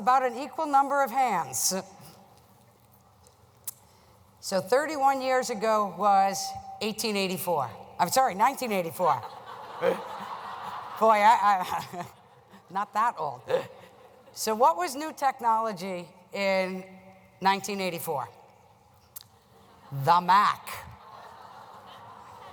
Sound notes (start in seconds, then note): 9.2 laugher